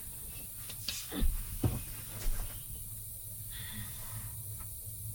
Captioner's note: gas hissing continues